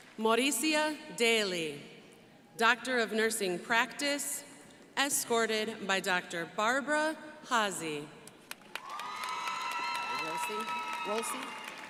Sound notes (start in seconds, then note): 8.5 crowd applauding